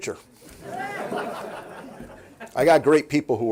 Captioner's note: laughing